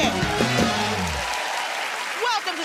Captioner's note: cheers and applause